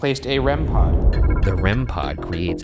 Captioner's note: device chiming